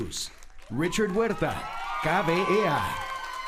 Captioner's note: applauding